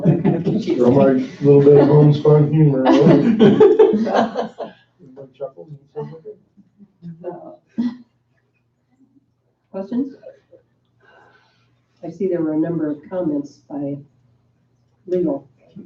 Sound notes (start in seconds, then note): 0.0 laughing